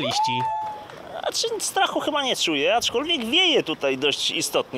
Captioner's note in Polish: w tle krzyk i oklaski